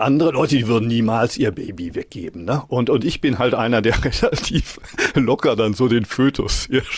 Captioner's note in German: gelächter